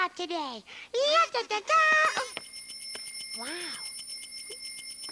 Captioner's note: bicycle bells ringing